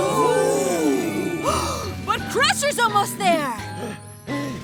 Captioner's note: gasps